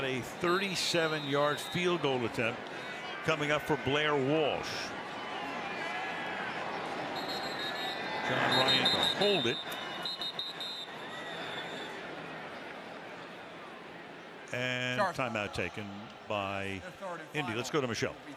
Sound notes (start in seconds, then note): 7.1 whistle; 10.9 whistle